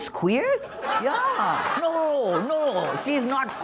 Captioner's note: laughter